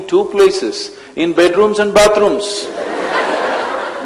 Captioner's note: laughter